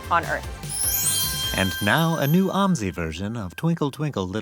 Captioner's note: voiceover